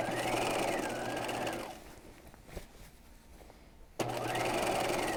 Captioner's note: sewing machine whirs